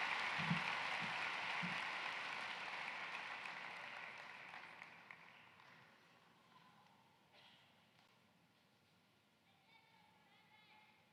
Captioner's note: cheering and applause